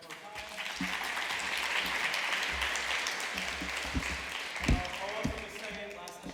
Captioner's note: applause